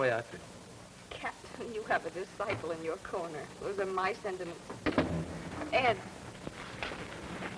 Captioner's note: door opens